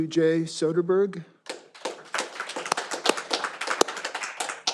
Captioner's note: all applauding